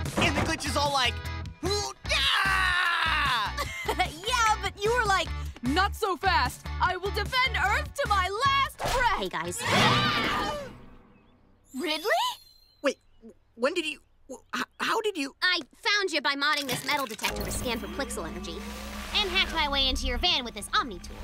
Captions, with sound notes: And the glitch was all like... [roars] [chuckles] Yeah, but you were like, "Not so fast! I will defend Earth to my last breath!" -Hey, guys. -[both scream] Ridley? Wait. When did you... How did you... I found you by modding this metal detector to scan for plixel energy. And hacked my way into your van with this omni-tool.